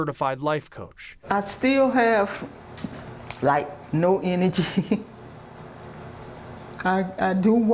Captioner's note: chuckles